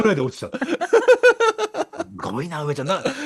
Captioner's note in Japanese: 笑い